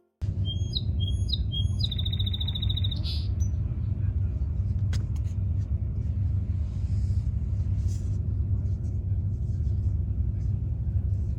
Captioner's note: sound of birds singing